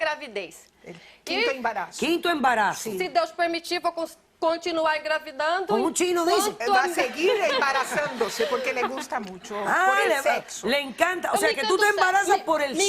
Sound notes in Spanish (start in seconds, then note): 4.4 habla en portugués; 7.0 risas; 7.4 habla en portugués